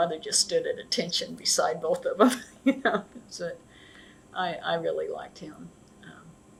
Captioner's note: laughs